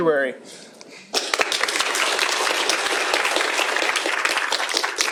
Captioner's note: applause